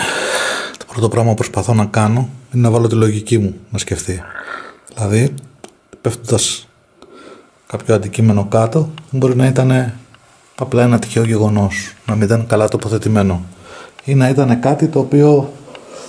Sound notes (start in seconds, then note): 3.9 evp sound